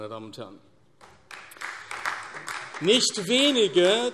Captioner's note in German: Beifall AfD